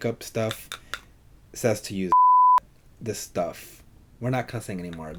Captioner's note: beeps